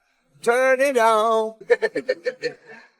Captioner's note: laughs